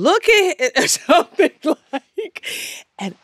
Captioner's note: laughter